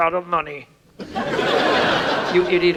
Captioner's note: audience laughs